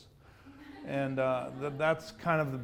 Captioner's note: audience laughs